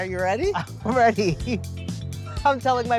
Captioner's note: laughs